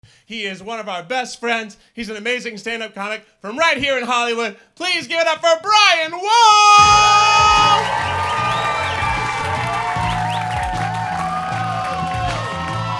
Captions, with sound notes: - He is one of our best friends. He's an amazing stand-up comic from right here in Hollywood, please give it up for Brian Wohl! (crowd cheering) (indie rock music)